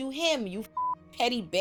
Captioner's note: beep